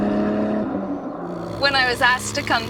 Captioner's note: engine revving